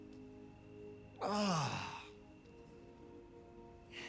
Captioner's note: sighs